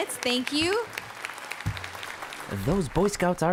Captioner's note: applause